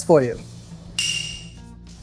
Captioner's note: bell dings